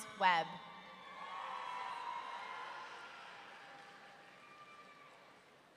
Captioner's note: audience cheering